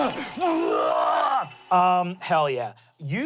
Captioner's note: yells